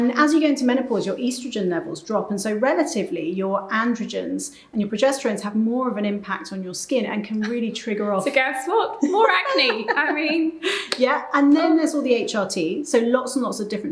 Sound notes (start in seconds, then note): 9.0 chuckling; 9.0 laughing